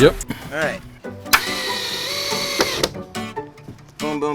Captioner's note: drill whirring